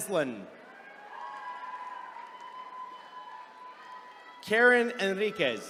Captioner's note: attendees cheering